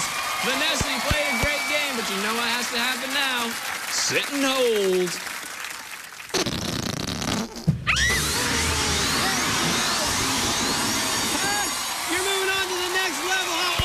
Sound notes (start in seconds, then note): 6.3 farting noise; 7.8 shrieks